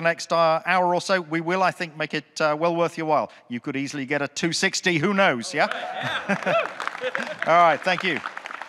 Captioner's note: audience cheering, clapping